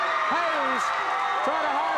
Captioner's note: audience cheers